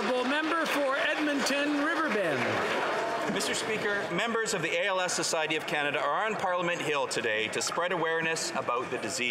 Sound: some Applause

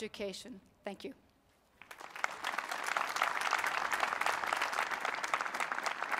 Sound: applause

